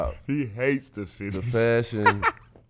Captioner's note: laughs